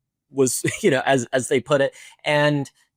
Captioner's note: laughs